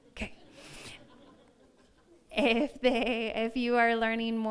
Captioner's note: audience laughs